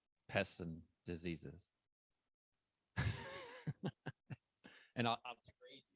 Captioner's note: laughs